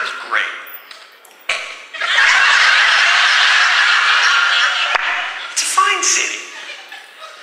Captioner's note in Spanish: aguanta la risa